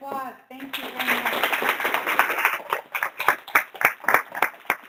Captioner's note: applause